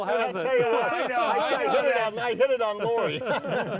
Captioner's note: hosts banter